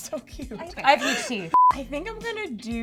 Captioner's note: laughs; beeping